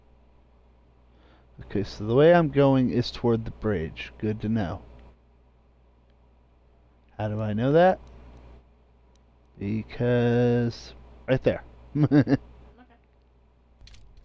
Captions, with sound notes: Okay, so the way I'm going is toward the bridge good to know How do I know that Because right there *laughters* Oh